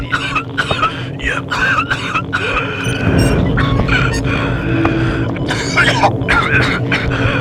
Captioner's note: coughing continues